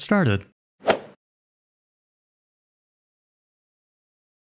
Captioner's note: golf ball hit sound